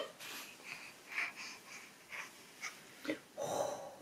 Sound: laughs; baby breaths hard

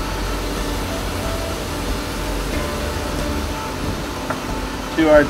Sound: frying sounds

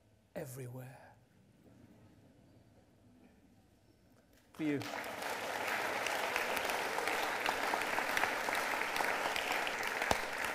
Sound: applause

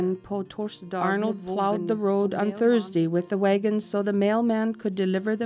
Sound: woman speaking English

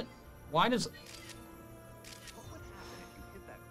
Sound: photo snapping

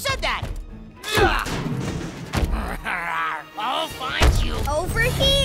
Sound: grunting

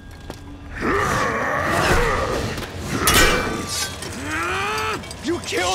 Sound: grunting

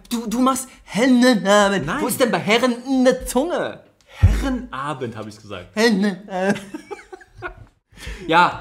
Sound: laughs

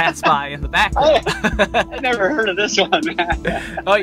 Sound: laughs

